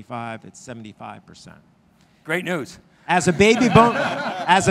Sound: laughing

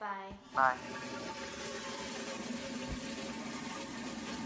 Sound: toilet flushes

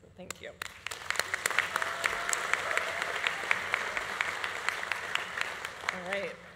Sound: audience applauding; audience cheering

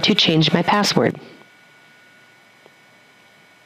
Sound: pause

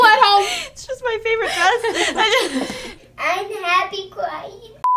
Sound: laughs

